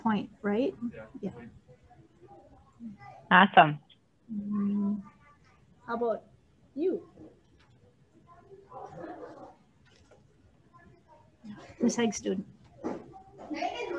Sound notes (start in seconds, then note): 10.8 pause